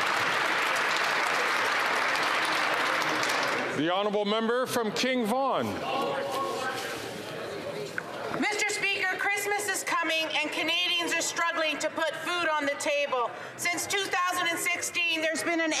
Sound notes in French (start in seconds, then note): 4.1 applaudissements; 12.8 voix de l'interprète